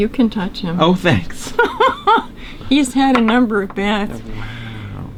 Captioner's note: laughter